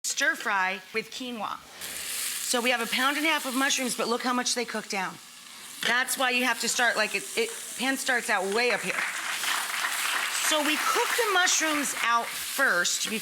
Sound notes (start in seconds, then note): 9.4 audience applauds